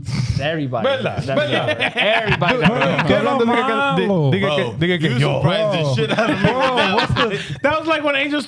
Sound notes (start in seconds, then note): 3.0 laughing